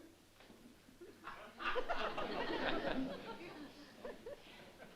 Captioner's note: laughter